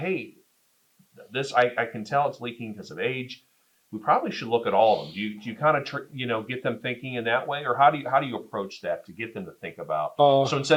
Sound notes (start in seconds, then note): none